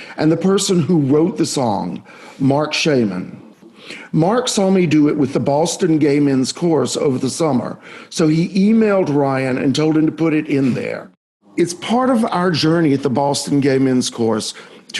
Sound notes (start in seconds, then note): none